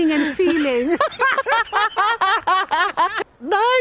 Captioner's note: laughter